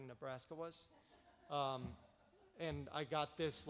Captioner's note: audience laughs